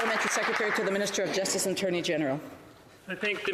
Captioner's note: applause